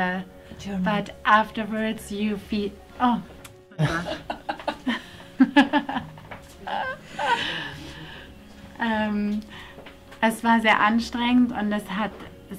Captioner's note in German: lacht